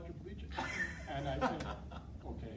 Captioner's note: laughing